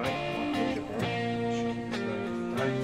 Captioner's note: man speaking in foreign language